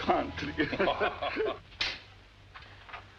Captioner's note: laughter